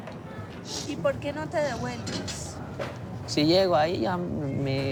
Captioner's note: in Spanish